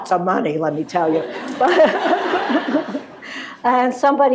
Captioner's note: laughter